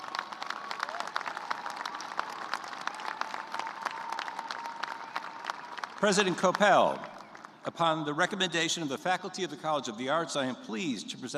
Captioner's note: cheers and applause